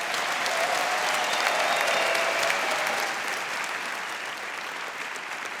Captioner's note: cheering and clapping